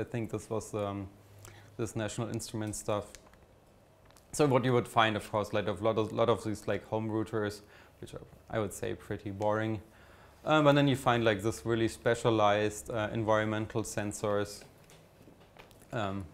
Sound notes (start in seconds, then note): none